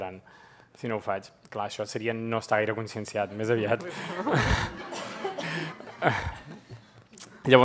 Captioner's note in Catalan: riures